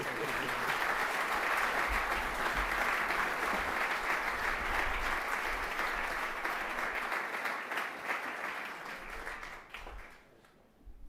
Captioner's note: applause